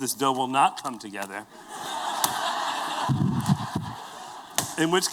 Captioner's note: laughter